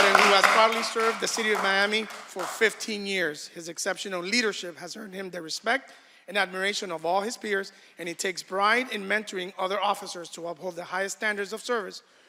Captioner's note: applause